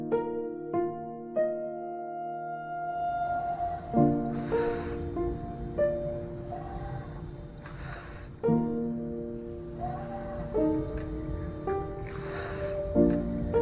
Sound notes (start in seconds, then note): 2.7 respirator hissing